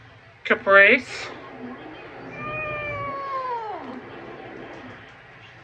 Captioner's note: resumes meowing in discomfort